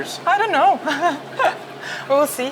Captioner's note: chuckles